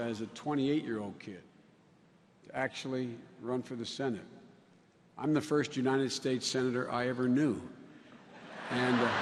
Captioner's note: laughter